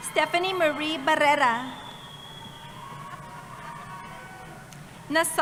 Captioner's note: cheering